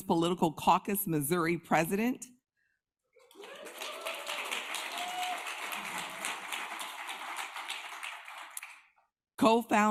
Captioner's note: applause